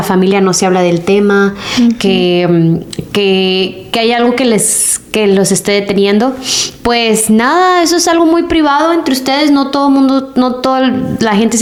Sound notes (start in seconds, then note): 6.6 sighs